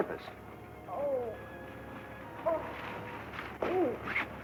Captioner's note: Pamela groaning